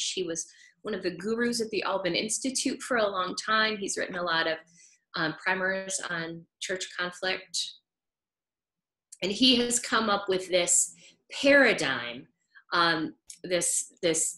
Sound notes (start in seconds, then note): none